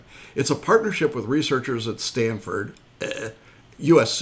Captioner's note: gagging